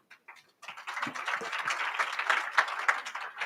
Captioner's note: audience applauds